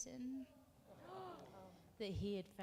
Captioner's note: moderator gasps